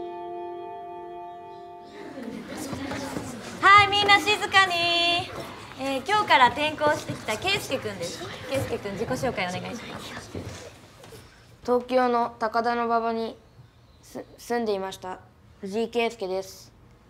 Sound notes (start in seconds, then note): 1.5 children mumble